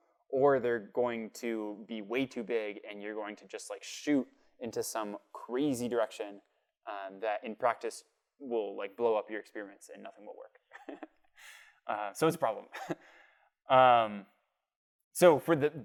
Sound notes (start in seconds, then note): 10.7 laughter